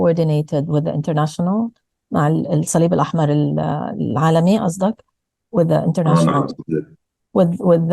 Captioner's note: speaking arabic